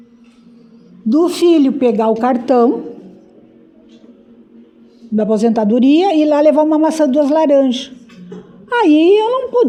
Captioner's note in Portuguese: limpando a garganta